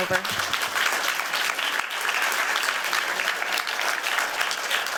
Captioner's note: applause